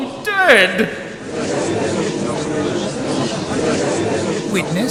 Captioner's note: gallery chattering